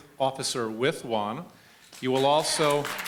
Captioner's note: applause